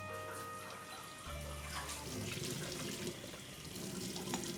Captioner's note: water running